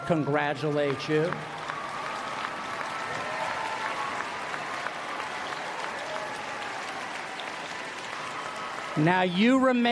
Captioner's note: applause